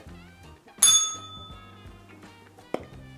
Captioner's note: bell rings